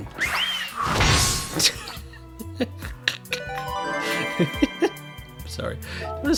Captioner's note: cartoon whistling noise; laughter; metallic thunk